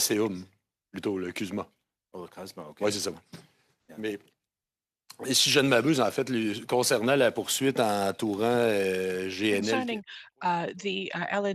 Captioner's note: speaking French